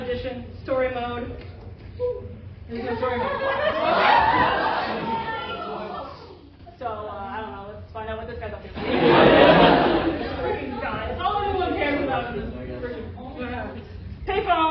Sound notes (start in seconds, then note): 4.8 disappointed yelling; 8.8 laughter